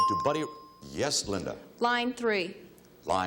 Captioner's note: bell chimes